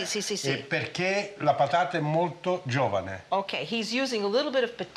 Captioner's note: speaking Italian